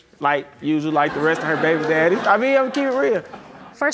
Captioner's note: audience laughs